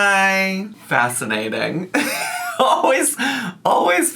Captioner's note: laughs